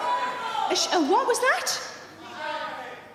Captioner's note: audience shouting